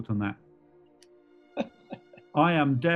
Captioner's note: chuckling